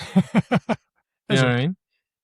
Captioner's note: laughs